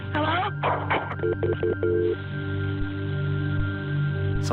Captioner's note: dial tone beeping